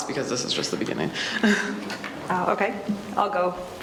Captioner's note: laughs softly